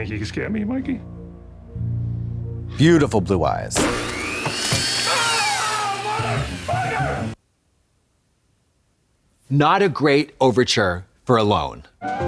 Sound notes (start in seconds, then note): 1.6 ominous music; 3.7 saw buzzing